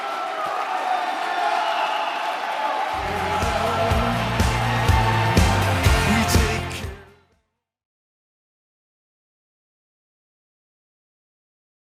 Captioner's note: applause